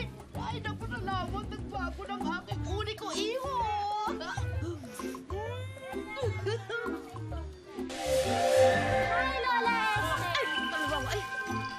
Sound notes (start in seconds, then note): 6.2 giggles